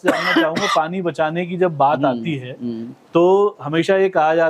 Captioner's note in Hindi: खांसने की आवाज़; गला साफ़ करने की आवाज़